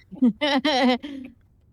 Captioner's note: laughing